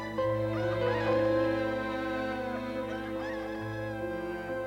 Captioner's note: roosters crowing